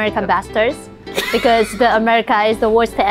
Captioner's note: Chortles in American